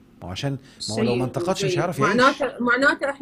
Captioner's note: sarcasm!